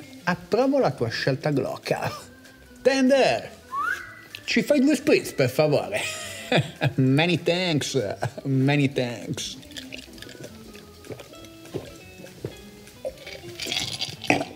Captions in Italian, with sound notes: Approvo la tua scelta glocal Tender! [fischia] Ci fai due Spritz per favore? Many thanks, many thanks...